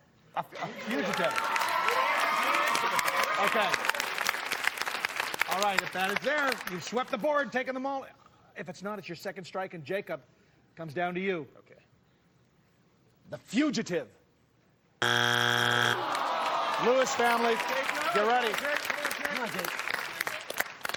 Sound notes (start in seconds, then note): 15.0 buzzer sounds